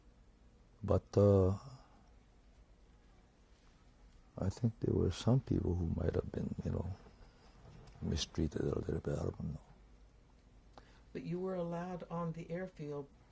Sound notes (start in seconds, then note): 1.3 pauses for 3 seconds